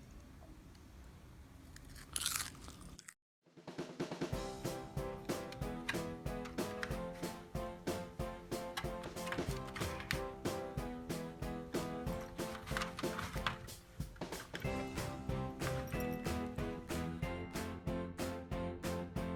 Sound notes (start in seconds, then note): 1.9 chomping sound